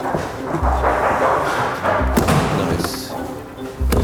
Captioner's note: thudding